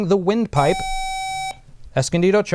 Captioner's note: buzzer